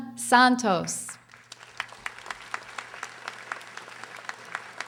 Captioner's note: audience applauding